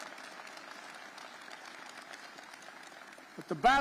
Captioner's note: applause